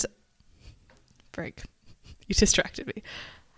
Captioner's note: laughs